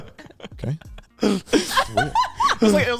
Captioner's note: laughs